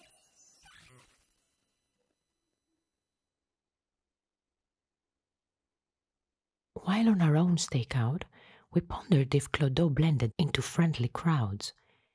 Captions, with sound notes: (music stops) While on our own stakeout, we pondered if CLODO blended into friendly crowds.